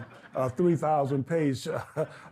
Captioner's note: Harry laughs